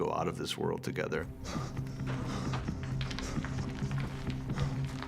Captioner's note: panting